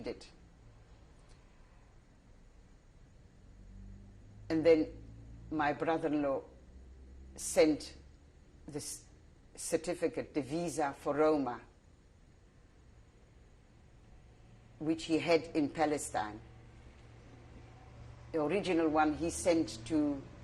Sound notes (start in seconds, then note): 12.3 pauses for 3 seconds